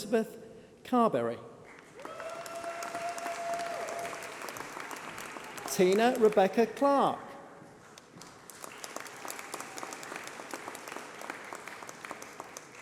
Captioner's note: applause